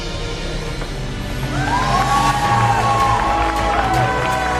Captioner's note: cheering